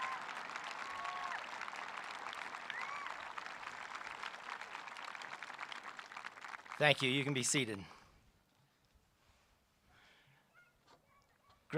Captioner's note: applause